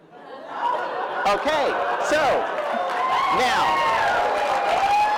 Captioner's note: cheering